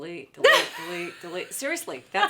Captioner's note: laughs